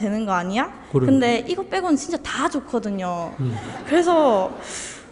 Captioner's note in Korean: 청중 웃음